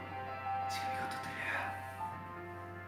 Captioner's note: whispering